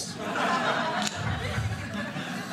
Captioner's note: audience laughing